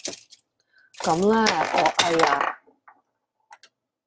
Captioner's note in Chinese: 鏈聲…